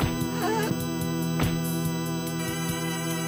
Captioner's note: groans